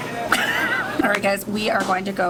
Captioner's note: laughing